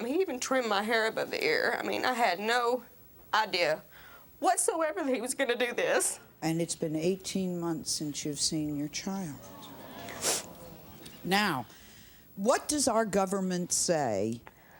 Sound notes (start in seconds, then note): 9.2 crowd murmurs